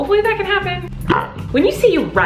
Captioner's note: belching